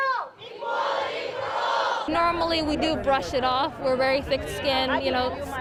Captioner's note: chanting